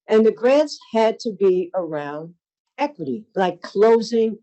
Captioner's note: none